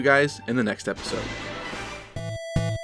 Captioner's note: Fire Emblem Echoes battle start sound